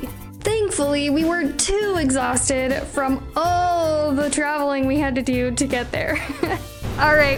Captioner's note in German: Lacht